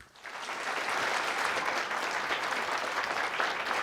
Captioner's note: audience applauds